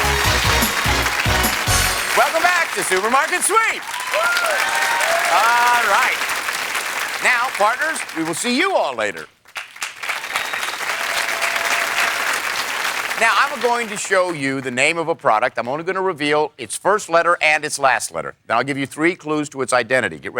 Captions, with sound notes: -Welcome back to Supermarket Sweep. (cheers and applause) Alright. Now, partners we will see you all later. (cheers and applause) Now I am going to show you the name of a product. I'm only going to reveal its first letter and its last letter. I'll give you three clues to its identity.